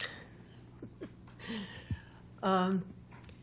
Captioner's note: chuckling